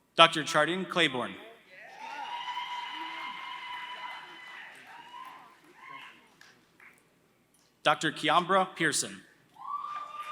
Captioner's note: applause